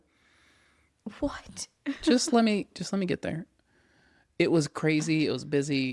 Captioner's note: laughs